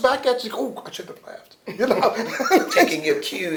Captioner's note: laughter